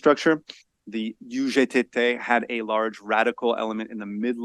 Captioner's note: speaks foreign language